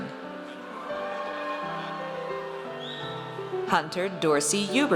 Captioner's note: audience cheers